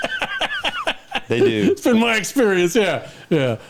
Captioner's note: laughing